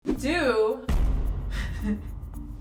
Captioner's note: comical music; explosion; giggles